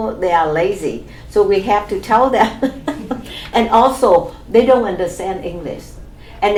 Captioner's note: laughs